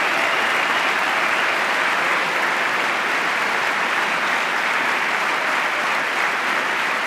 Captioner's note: applause